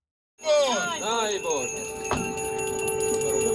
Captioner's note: sirens blaring